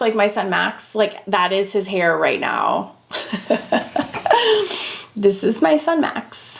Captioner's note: laughing